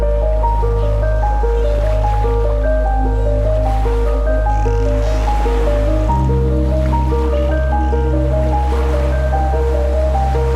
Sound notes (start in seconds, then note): 1.0 dolphins squeal; 3.3 upbeat piano music; 3.3 waves billow